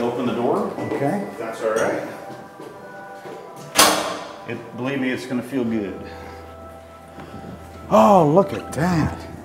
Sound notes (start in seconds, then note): 0.1 footsteps; 3.6 latch opening